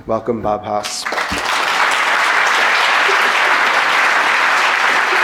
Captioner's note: audience applauding